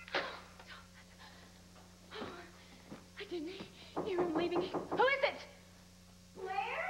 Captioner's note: disconnected phone beeps